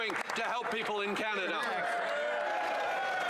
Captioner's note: some Applause